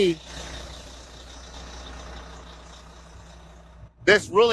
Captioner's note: bus engine revving